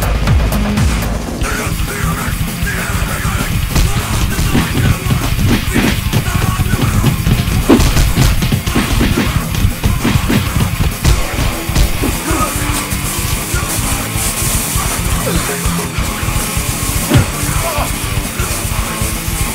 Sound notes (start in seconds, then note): 1.7 heavy metal music; 4.0 fighting sound effects